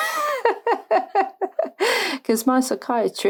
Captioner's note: laughs